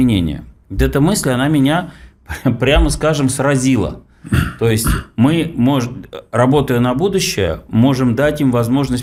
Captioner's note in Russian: откашливается